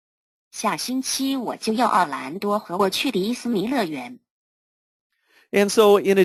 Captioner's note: message is spoken aloud in Mandarin